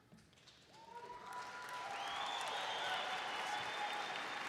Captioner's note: audience cheers